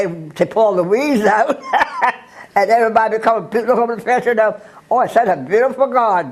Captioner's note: laugh